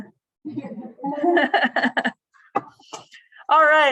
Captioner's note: laughter